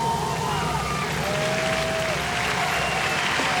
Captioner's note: applause